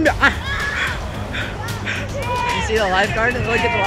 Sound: heavy breathing

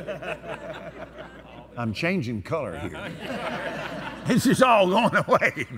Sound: laughter

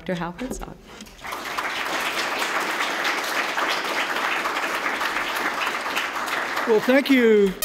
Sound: applause

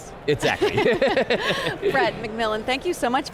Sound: laughing

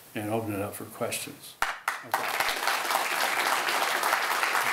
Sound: applause

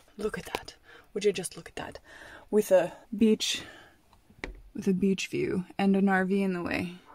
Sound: none

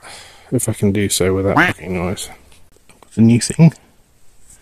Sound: quacking

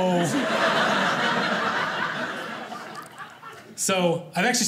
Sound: audience laughing

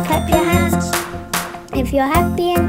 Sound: clapping

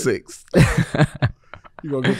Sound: Miles laughing

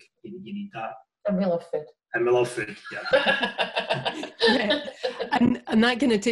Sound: laughter

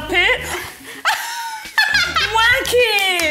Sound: laughing

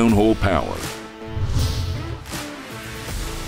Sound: air swooshing; upbeat music

